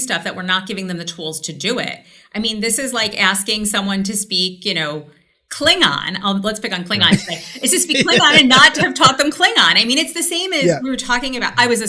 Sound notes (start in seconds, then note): 7.0 laughs